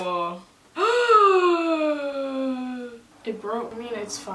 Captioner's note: long gasp